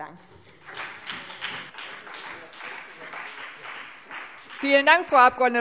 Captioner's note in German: Beifall CDU und BÜNDNIS 90/DIE GRÜNEN